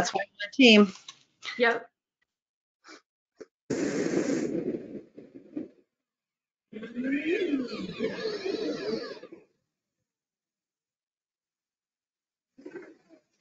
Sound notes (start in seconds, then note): 6.8 swirling beeping and whirring